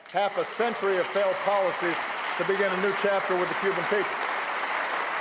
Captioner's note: applause